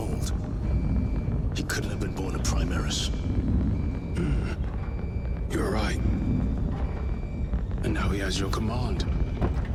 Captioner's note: clears throat